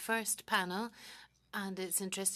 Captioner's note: speaking French